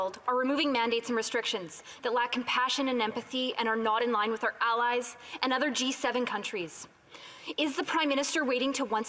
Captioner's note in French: voix de l'interprète